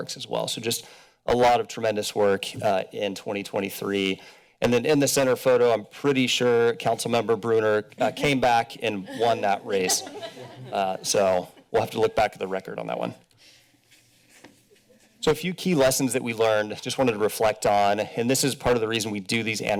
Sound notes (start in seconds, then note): 8.9 laughter